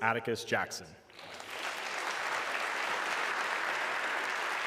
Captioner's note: audience clapping